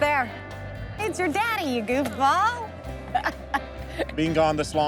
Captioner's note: laughing